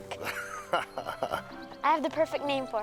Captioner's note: Bill laughing